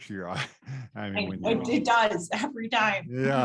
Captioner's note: laughs